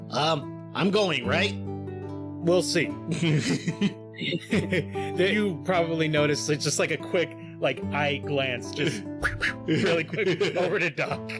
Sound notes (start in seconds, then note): 4.1 laughing